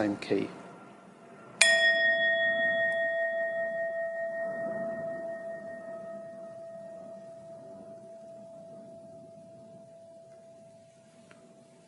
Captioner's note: bell rings